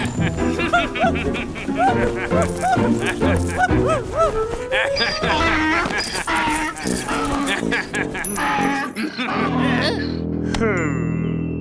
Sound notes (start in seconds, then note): 5.1 donkey braying